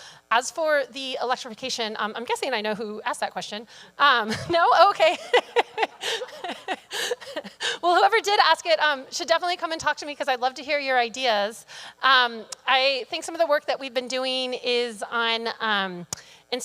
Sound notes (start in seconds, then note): 4.9 laughs